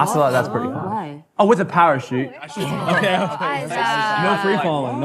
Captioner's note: laughter